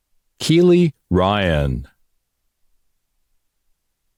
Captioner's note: none